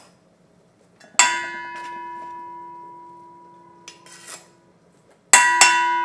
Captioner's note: spoon clanking on bowl